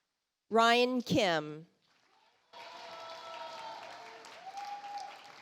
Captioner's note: audience applauds